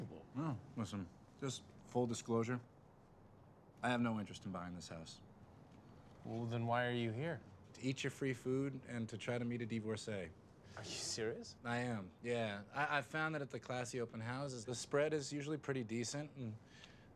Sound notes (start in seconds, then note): 10.8 scoffing